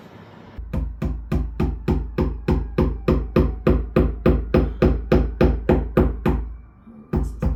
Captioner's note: hammering